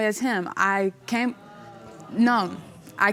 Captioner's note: audience murmuring